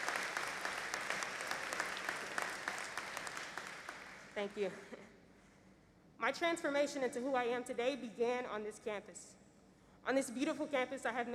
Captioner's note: applause